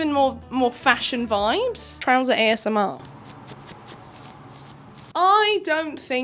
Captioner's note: scratch